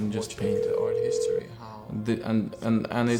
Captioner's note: dial tone ringing